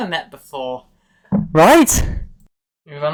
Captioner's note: item drop on desk noise